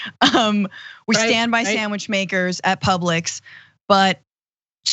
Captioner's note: laugh